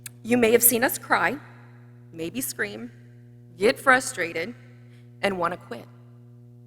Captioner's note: none